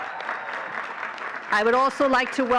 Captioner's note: all cheering and clapping